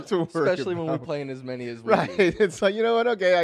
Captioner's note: laughter